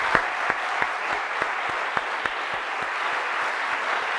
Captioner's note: audience applauding